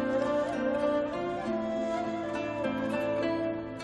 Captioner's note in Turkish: none